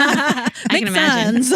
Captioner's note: laughing